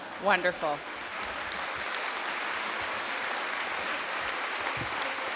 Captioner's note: audience applauding